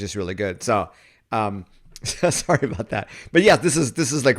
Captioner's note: laughs